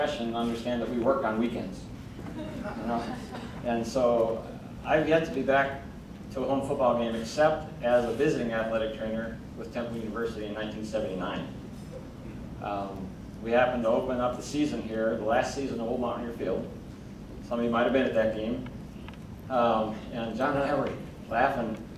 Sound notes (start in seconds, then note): 2.2 crowd chuckling